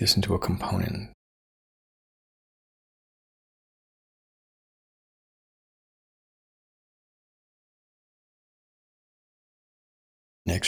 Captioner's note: silence